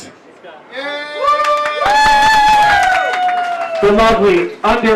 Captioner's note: audience applauding